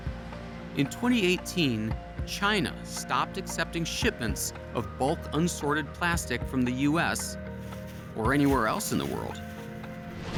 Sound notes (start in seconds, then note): none